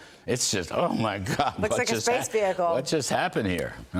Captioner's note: laughter